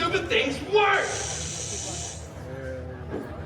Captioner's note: electricity buzzing